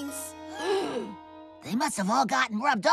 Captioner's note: all Gasp